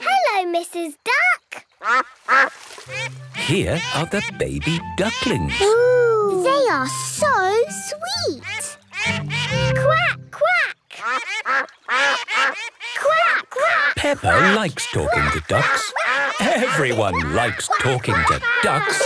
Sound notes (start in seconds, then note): 2.8 quacks; 8.4 all laugh; 11.1 quacking